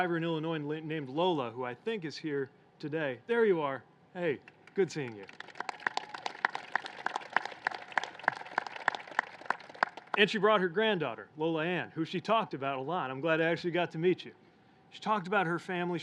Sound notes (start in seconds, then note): 4.5 applause